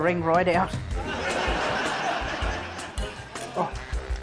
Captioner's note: laughter